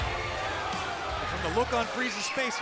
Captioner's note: crowd cheering